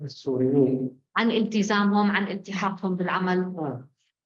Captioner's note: speaking arabic